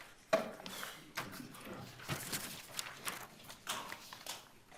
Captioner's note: shuffling of desks and papers; shuffling of papers continues